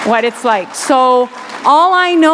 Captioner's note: applause